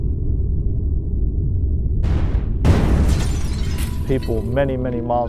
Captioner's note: shattering explosion